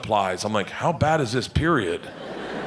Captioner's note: audience laughing